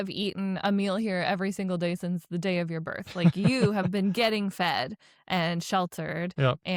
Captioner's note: laughs